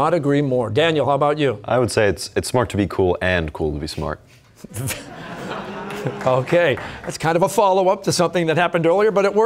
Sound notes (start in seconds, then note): 4.7 chuckling; 4.7 audience laughter